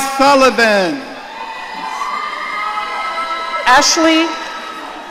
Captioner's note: audience cheering